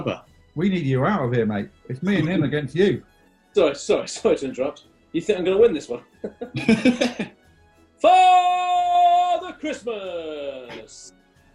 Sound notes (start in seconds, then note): 6.1 laughter